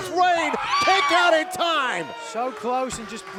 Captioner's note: Royce screams